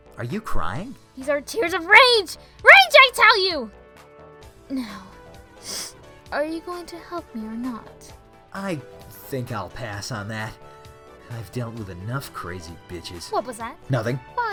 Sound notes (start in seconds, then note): 5.5 sniff